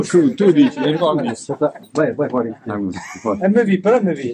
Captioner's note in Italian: risate in sottofondo